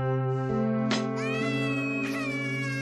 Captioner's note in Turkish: Ağlama sesi